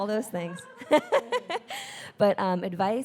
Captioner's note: laughing